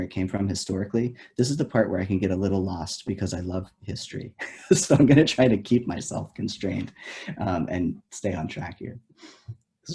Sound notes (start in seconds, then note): 3.9 laughs